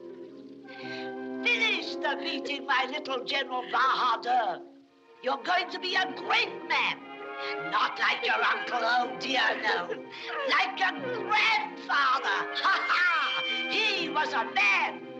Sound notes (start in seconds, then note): 12.1 crying Continues